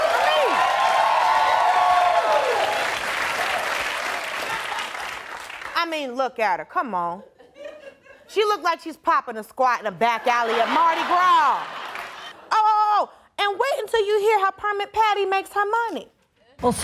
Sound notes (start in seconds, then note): 0.0 audience cheering